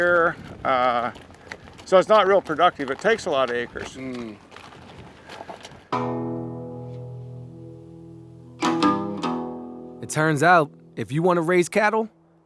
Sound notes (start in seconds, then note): 4.4 hooves clacking; 5.9 gentle guitar music